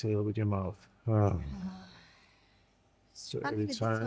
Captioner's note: breathing deeply